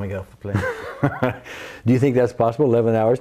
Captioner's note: laughs